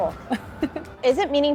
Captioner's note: laughing